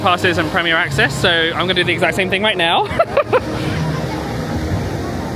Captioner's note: laughing